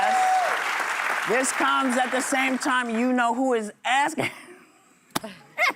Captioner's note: applause